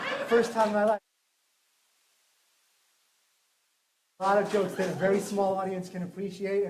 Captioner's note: laughter; silence